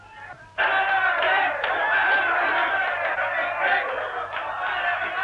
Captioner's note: loud cheering